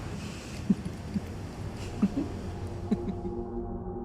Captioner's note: Imogen chuckles